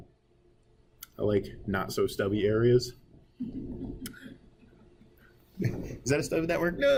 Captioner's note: students chuckling